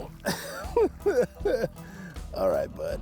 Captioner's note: chuckling